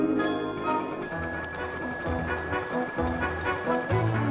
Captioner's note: ringing